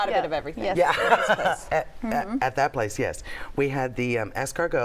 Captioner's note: laughs